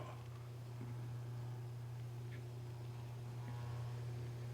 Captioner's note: tape machine whirring